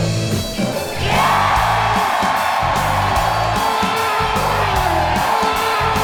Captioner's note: upbeat rock music; audience cheering loudly